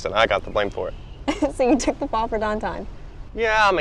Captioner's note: laughs